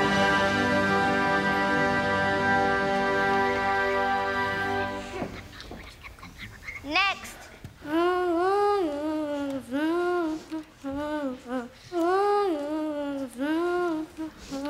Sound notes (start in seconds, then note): 0.0 victory music; 7.8 girl on stage humming